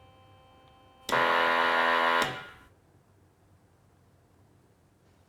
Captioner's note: machine blaring